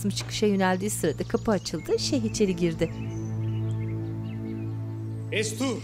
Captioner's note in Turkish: Kuş cıvıltısı sesi